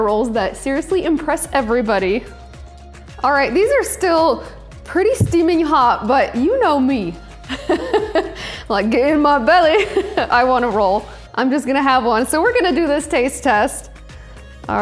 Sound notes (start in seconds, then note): 7.5 laughs